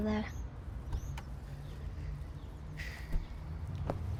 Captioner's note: door clicking